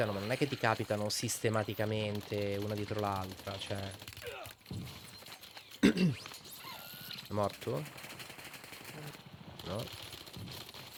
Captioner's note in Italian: tosse